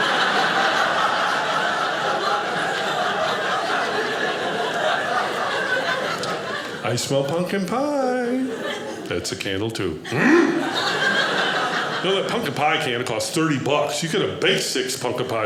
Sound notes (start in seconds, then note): 0.1 audience laughing; 10.1 grunts